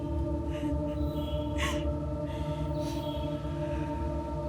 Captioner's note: weeping